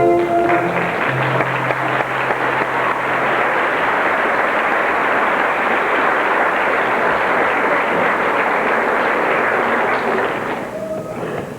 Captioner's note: applause